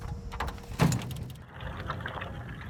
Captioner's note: bag clunking; water trickling